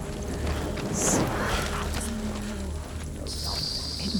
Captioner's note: whispering